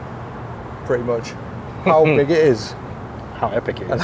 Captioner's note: laughs